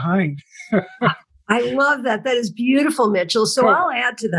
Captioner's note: laugh